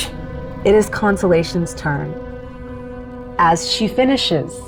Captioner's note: hissing